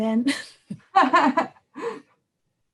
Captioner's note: laughter